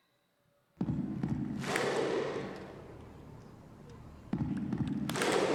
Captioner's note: rhythmic clapping